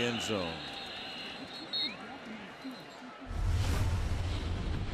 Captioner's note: whistle